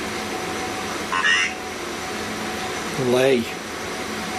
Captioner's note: computer voice